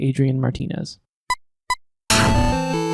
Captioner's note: SFX: beeping; theme music playing